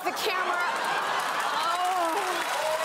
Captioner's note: laughter